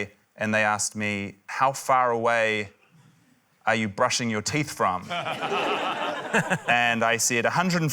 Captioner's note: laughter